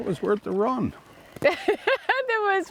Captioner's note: laughing